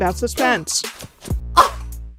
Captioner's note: insulted noise